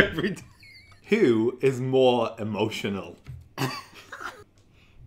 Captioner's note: laughs; beep; laughs